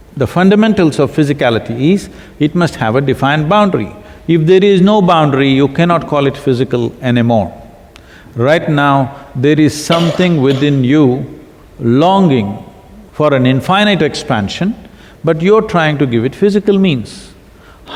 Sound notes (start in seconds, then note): none